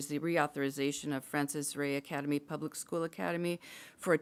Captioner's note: none